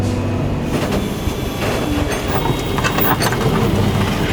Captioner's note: flatbed whirring